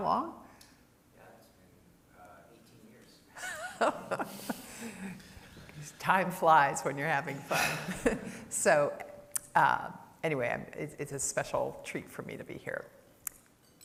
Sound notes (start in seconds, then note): 7.4 laughter